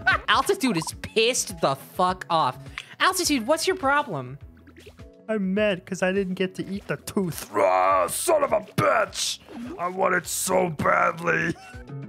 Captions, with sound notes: Altitude is pissed the fuck off. Altitude, what’s your problem? [little guy voice] I’m mad ‘cause I didn’t get to eat the tooth. Raaaahhhh, son of a bitch! I want it so badly!